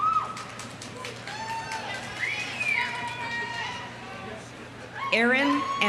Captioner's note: audience applauding; audience cheering